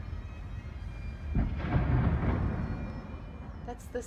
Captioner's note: boom of a cannon in the background